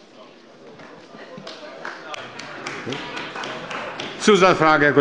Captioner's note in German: Beifall bei der CDU